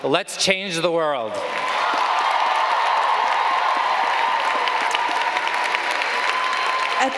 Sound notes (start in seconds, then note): 1.3 audience cheering